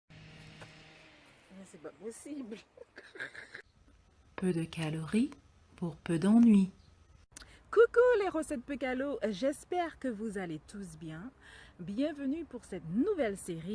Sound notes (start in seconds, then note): 2.3 laughs